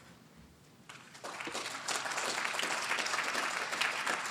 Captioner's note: applause